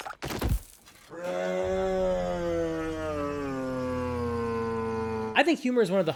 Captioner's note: warped voice